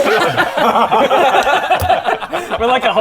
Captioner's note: laughs in style icon